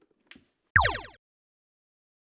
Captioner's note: PEW! Sound from stapler